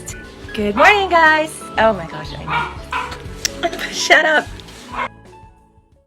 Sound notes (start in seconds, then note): 2.4 dog barking